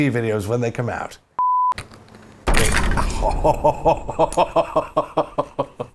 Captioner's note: laughs